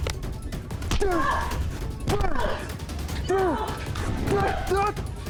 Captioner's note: Jeremy's foot thuds; Mrs. Hill grunts; both grunting